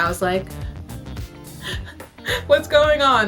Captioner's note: sobbing